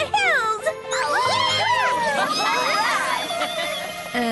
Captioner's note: cheers